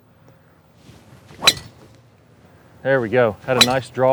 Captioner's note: club clacks